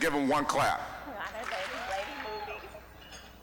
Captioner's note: audience clapping once